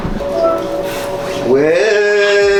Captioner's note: phone chimes